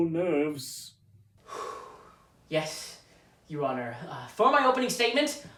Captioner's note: deep breath